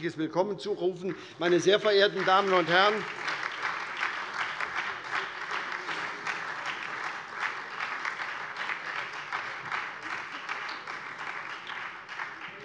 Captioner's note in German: Beifall SPD und DIE LINKE